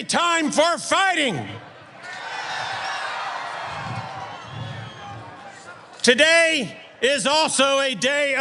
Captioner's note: applause